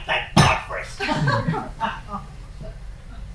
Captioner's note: laughing